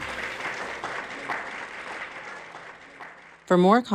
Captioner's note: people applauding